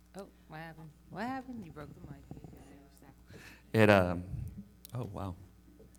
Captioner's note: speaks faintly